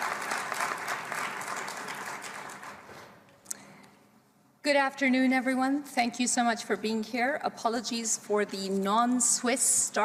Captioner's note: applause